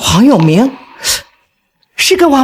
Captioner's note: gasps